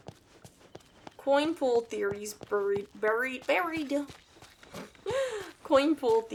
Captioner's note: laughs